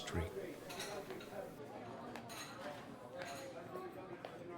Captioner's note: crowd chattering